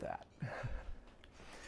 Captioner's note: chuckle